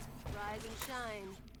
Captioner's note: gunshots